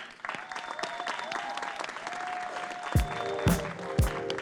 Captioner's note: audience clapping; gentle upbeat music